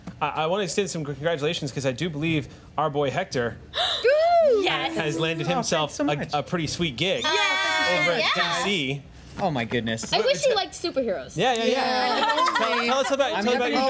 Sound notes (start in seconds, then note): 3.8 gasping; 12.1 laughing